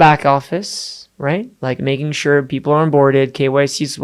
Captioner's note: none